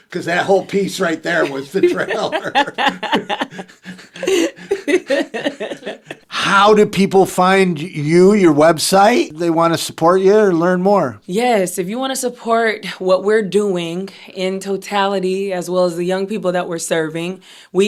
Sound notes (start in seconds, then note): 2.4 both laugh